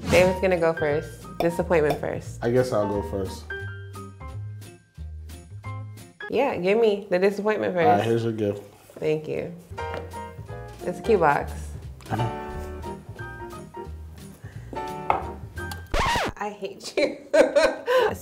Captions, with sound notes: Dave's gonna go first. Disappointment first. - I guess I'll go first. (Christmas music) - Yeah, give me the disappointment first. - Alright, here's your gift. - Thank you. It's a cute box. - I know. (record stops) - I hate you. (laughs)